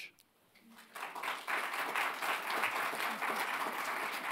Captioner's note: audience clapping